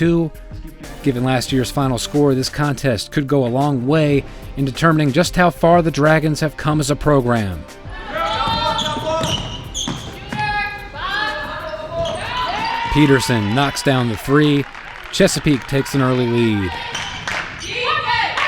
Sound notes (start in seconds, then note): 9.0 coaches shouting